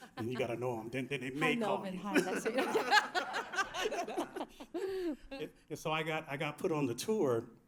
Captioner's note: laughter